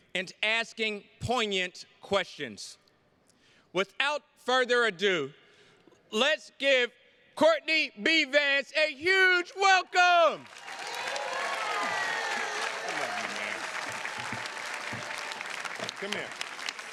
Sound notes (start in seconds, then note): 9.5 attendees cheers and claps; 14.4 attendees clapping